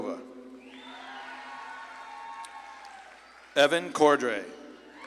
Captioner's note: audience claps and cheers